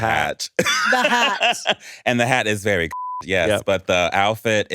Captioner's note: beep